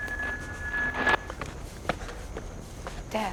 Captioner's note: buzzing